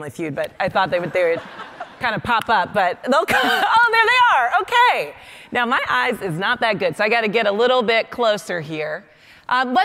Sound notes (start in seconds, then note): 1.0 audience laughing; 2.9 laughing